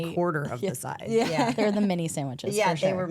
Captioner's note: laughs